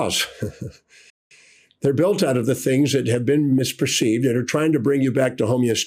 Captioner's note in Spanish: ríe